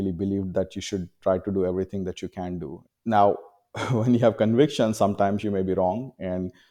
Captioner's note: laughs